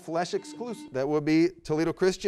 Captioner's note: beep